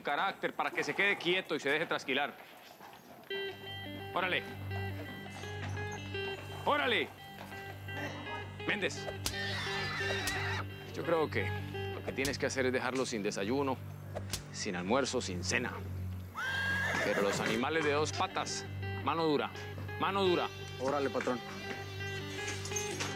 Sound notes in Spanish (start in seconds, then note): 9.4 quejidos del caballo; 16.2 relinchos